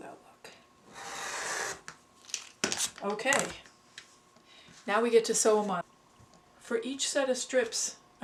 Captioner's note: sound of cutting